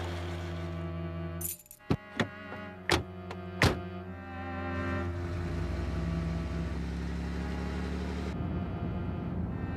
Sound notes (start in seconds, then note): 0.0 bicycle chain trundling; 2.8 car doors opening and closing; 6.4 engine running